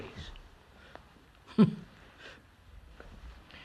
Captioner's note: laughs